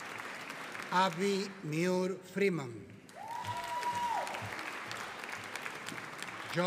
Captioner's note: audience cheering